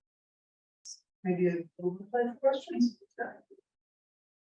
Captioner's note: speaks electronically distorted